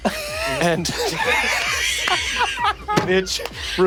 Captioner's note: players laughing